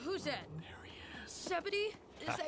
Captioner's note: whispering